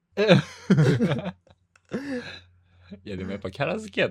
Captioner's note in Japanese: 笑い